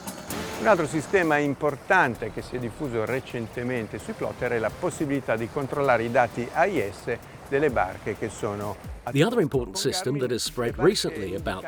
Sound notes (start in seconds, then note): 1.1 speaking in foreign language